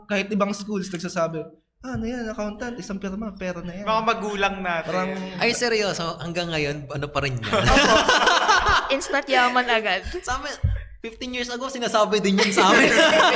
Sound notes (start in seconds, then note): 7.4 laughs